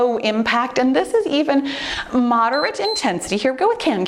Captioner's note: timer beeps